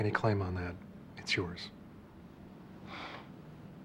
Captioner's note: exhales